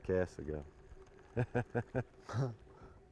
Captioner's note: laughter